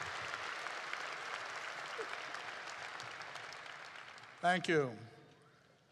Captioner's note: applause